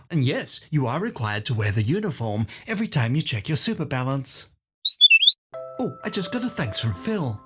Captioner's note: whistle